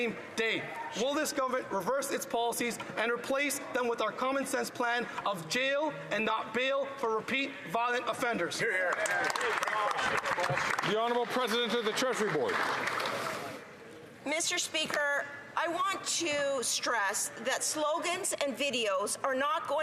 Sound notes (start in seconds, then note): 12.5 some Applause